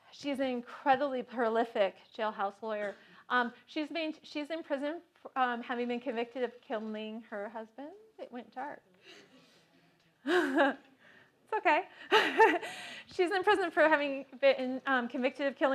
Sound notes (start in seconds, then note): 9.8 laugh